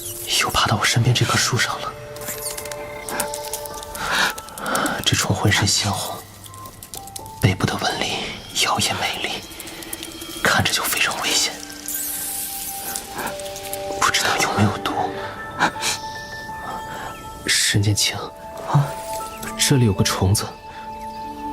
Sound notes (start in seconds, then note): 14.9 burying his face, sobbing quietly